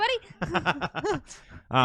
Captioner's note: laughing